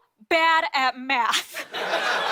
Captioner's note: laughter